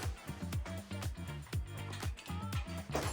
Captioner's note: sound of the scooter